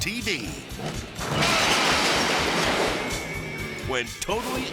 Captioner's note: shed shattering